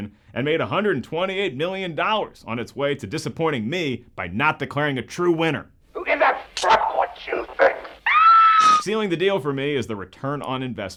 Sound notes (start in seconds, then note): 8.0 woman screams